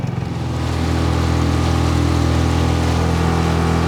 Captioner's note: motor revving